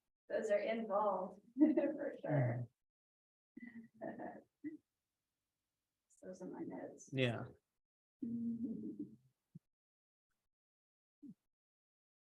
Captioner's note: laughter